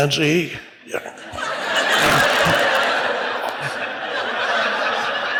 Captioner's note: audience laughs